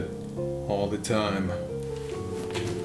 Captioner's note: sounds of wind